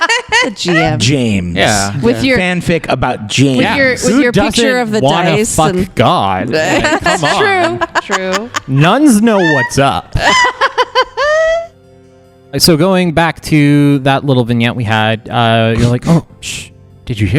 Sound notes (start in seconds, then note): 6.7 laughter; 10.1 laugh